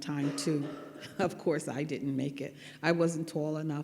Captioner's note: laughs